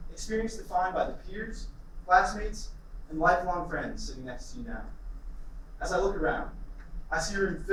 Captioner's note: none